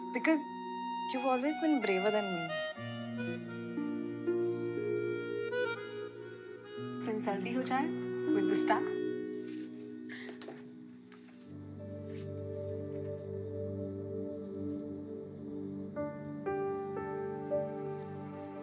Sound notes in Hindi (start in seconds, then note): none